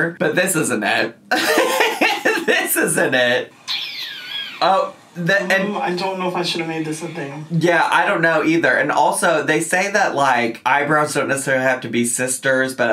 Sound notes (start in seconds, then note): 3.6 laughs